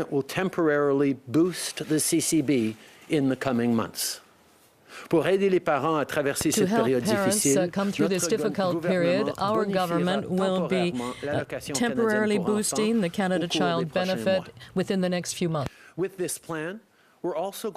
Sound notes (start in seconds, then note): 9.3 speaking French